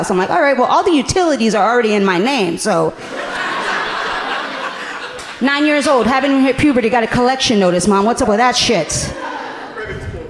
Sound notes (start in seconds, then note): 2.9 audience laughing amusingly